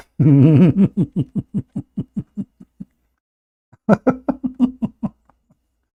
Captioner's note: Ketawa